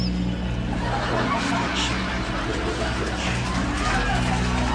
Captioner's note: distorted voice